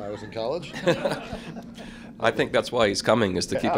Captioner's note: laughter